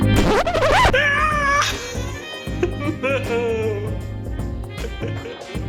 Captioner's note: laughing